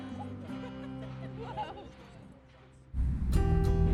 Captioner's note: laughs; upbeat music